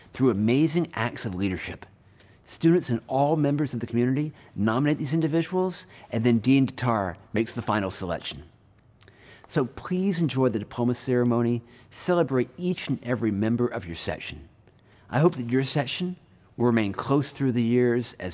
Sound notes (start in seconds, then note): none